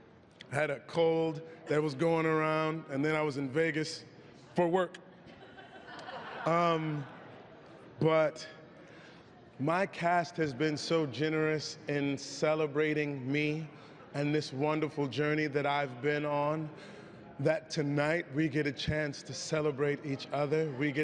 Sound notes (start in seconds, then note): 5.3 laughing